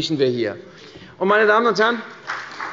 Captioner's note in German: Beifall bei der CDU und dem BÜNDNIS 90/DIE GRÜNEN